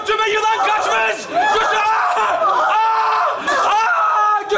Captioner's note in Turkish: bağrışmalar